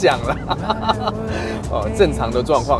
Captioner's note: laughter